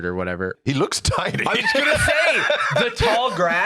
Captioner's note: laughs